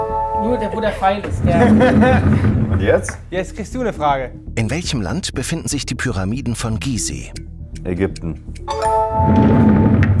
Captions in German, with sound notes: Nur der, wo der Pfeil ist. (Lachen) Und jetzt? - Jetzt kriegst du 'ne Frage. Ägypten.